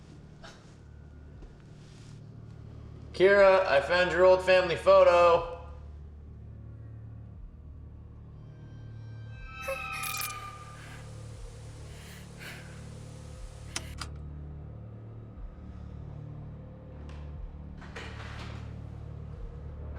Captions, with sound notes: Kira, I found your old family photo. (ominous music) (spine-tingling music) (ominous music) (viewer breathing heavily) (button clicks) (tense ominous music)